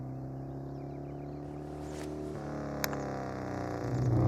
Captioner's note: motorcycle roaring